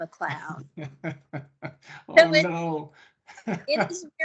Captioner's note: laughing